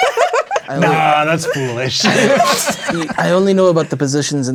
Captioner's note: players laughing